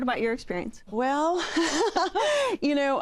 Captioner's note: laughs